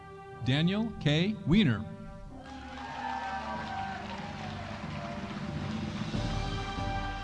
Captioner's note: audience cheering